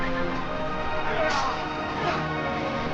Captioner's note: metal clanging